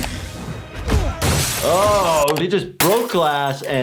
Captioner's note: glass shattering